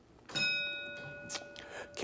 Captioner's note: bell ringing